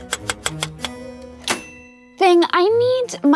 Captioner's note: keys tapping